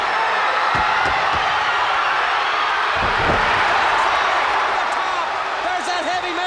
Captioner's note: crowd cheering